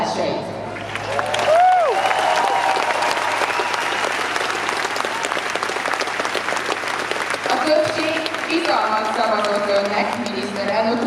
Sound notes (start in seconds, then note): 0.7 applause